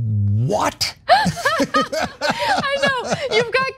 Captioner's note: laugh